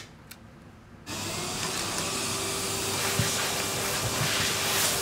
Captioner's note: vacuum humming